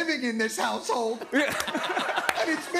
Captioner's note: laughter